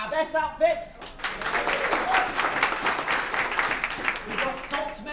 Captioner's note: applause